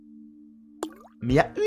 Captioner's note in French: ploc